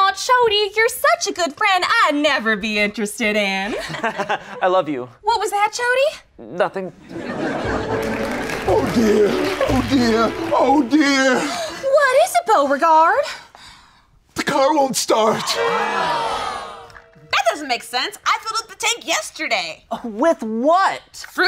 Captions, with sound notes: - Oh Chody, you're such a good friend I'd never be interested in. - (fake laughing) I love you. - What was that, Chody? - Nothing. (laughter and applause) - Oh dear. Oh dear. Oh dear. - What is it Beauregard? - The car won't start! - That doesn't make sense. I filled up the tank yesterday. - With what?